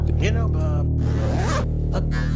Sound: zipper noise

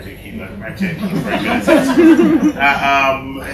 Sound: laughter

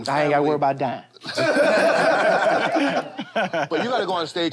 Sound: laughter

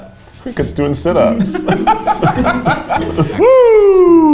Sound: both laugh

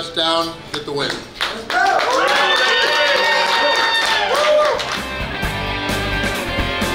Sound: clapping & Cheering

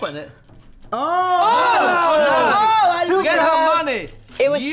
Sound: group exclaims

